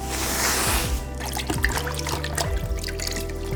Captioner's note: water splashing